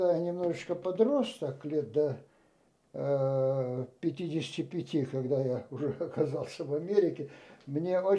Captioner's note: laughing